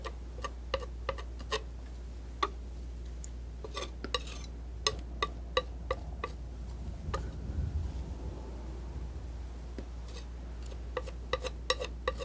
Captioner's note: scratching